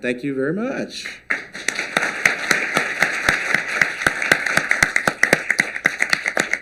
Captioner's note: applause